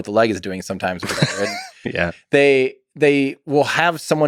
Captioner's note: Lex laughs